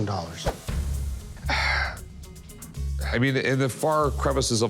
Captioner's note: sighs